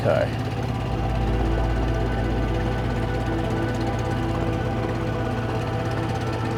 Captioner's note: gentle music; motor burbling